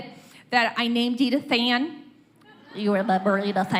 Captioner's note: laughter